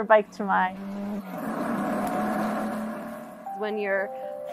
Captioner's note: motorcycle engine accelerating